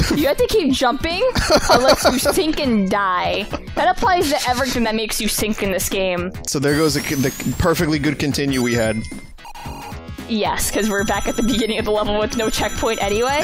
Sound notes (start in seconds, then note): 0.4 laughs; 7.3 stammering